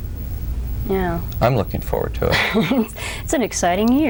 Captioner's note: giggles